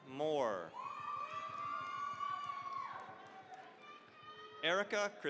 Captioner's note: cheering, applause